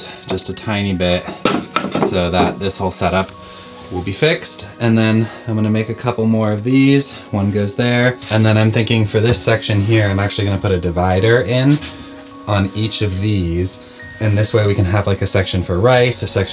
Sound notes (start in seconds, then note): none